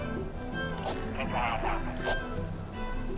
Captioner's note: radio static